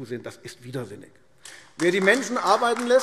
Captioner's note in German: Beifall AfD